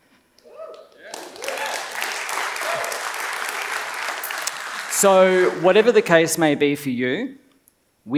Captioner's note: applause